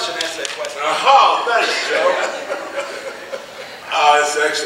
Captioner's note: laughing